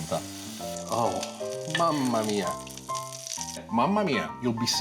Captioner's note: jazzy piano; speaking Italian; sizzling